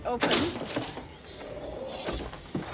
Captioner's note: machine hisses